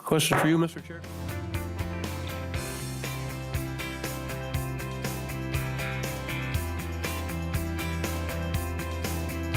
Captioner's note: gavel